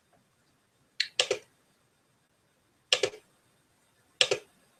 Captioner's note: keyboard clicking